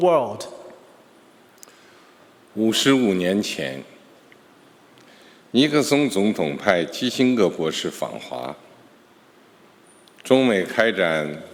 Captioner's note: speaking Mandarin Chinese